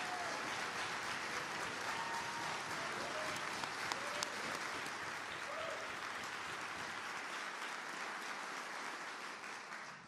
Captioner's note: applause